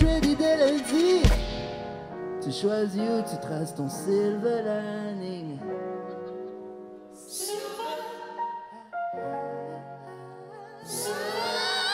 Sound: speaking French

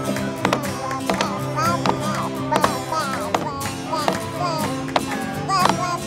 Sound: baby babbling

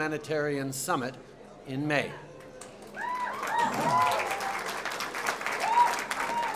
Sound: applause

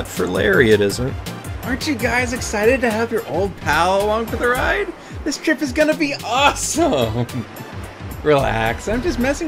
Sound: laughs

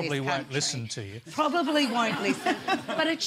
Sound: laughter

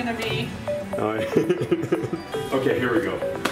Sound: dad laughing

